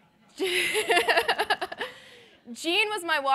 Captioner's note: laughter